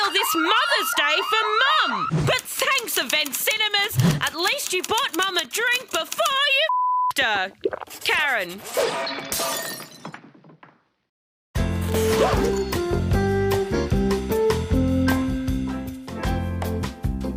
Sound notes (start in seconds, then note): 8.7 bottle smashes